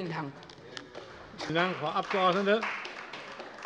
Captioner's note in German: Beifall bei Abgeordneten der CDU